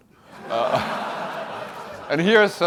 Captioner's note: laughter